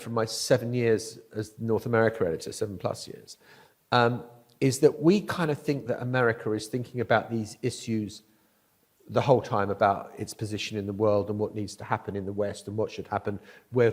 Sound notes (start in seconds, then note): none